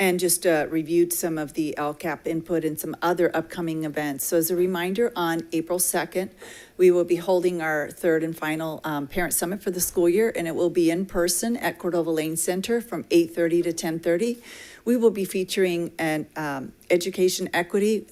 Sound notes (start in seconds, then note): none